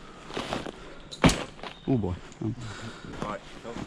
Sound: loud thud

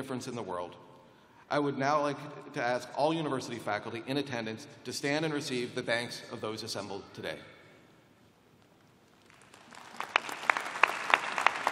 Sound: applause

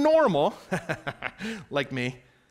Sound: laughing

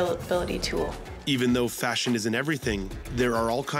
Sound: voiceover

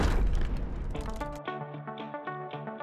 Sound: crashing sound

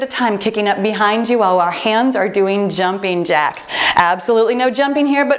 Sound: timer beeping

